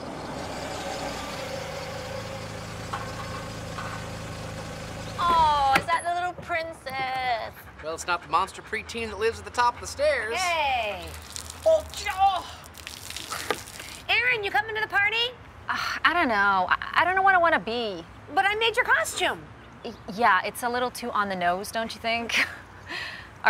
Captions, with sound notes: (car engine purrs) - Oh, is that the little princess? (Ramani panting) - Well, it's not the monster preteen that lives at the top of the stairs. - Hey! (water splashes) (groans) Erin, you comin' to the party? - Ugh, I don't know, I don't know what I wanna be. - But I made your costume. - Yeah, it's a little too on-the-nose, don't you think?